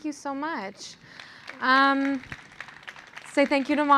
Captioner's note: applause